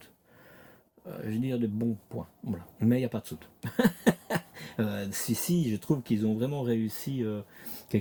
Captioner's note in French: rires